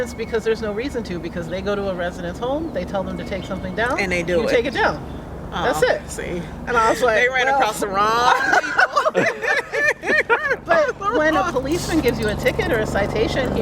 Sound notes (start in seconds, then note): 8.2 laughter